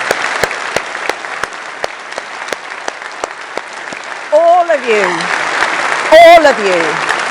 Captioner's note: applause